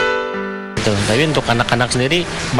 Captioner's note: non-english speech